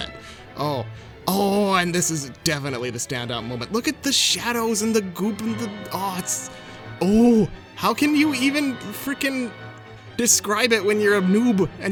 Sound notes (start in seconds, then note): 5.5 stammers